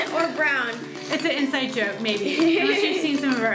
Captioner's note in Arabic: يضحك